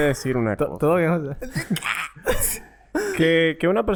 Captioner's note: awe sound; laughs; awe sound